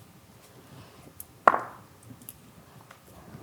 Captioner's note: dice rolling